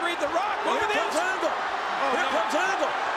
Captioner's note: crowd boos